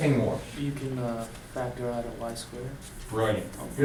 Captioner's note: voiceover